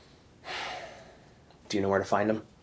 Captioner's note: Randall sighs